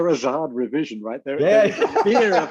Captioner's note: laughs